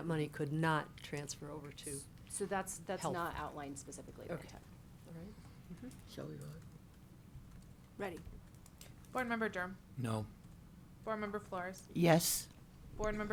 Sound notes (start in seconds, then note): 6.6 board speaking faintly